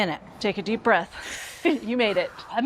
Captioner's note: Julia inhales